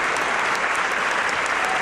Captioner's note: applause